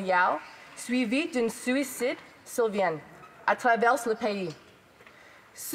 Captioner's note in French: voix de l'interprète